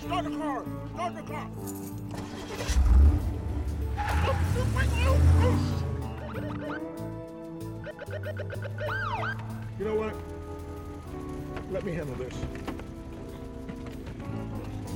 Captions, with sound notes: Start the car! Start the car! ( starts car ) ( tires screech ) ( sirens ) Let me handle this.